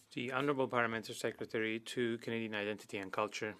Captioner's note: speaking French